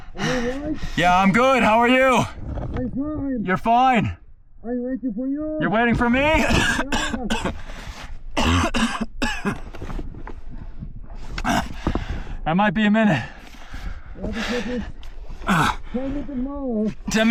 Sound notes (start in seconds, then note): 8.4 coughs